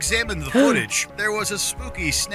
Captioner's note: gasps